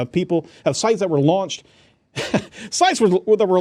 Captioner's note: chuckling